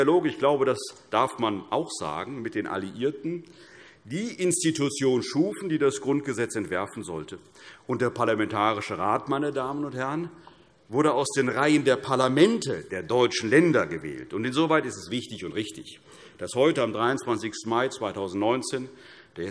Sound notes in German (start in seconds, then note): none